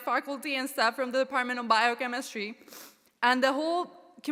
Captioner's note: sniffles